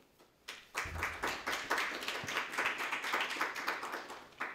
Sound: audience clapping

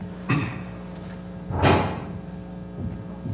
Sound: cough

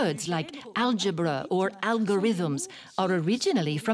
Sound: speaks French

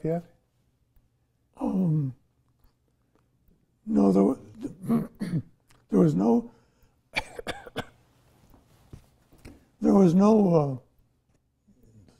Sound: coughs

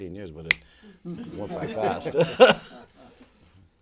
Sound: snap; laughter

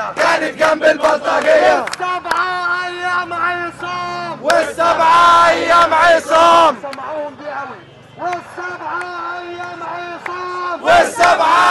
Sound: chants

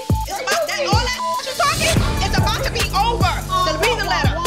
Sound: beep

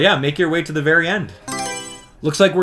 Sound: Mario Selection Sound

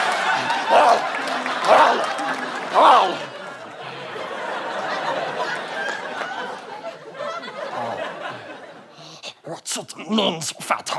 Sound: in Gollum voice; yelling

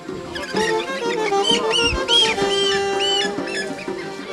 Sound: animal squealing

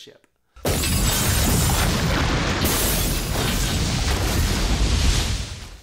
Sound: glass shatters, water splashes, Captain drowns

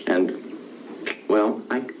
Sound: kissing

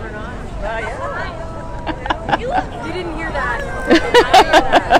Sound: laughter

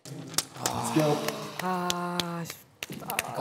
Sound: sigh

